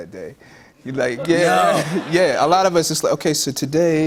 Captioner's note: laughter